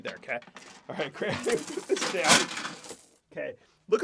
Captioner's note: laughs